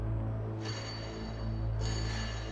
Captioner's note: clanging